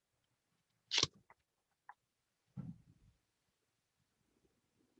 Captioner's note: papers shuffle